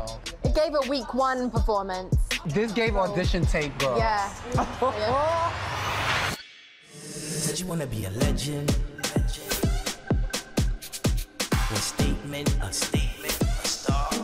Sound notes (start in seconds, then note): 4.4 chuckling